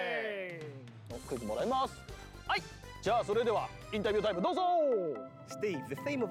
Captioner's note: speaking Japanese